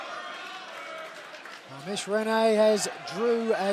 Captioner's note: fans chanting